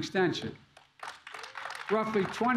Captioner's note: applause